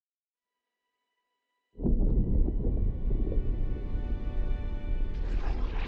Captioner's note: thunderstorms